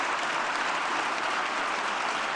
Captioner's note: applause